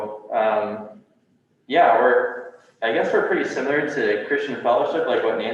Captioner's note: none